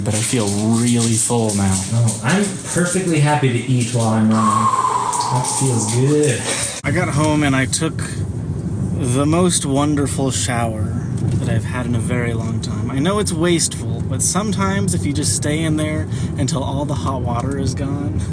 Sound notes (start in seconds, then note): 4.3 lets out a slow breath